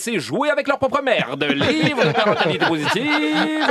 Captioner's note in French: rires